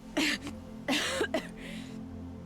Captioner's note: coughs